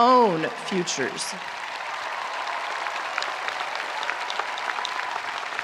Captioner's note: audience applauding